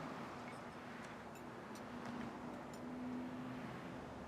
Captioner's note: cars whooshing